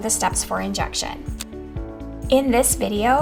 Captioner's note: pen clicking